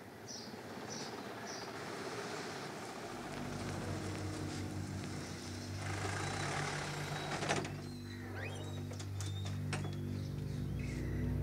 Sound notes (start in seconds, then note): 7.5 Engine shuts; 8.2 Door opens